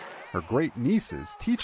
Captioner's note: cheers and applause